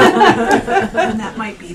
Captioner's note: all laughing